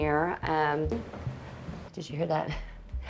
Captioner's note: gentle tap; chuckles